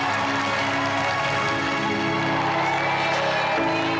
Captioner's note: audience applauding